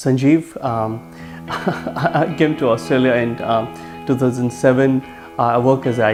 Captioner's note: laughs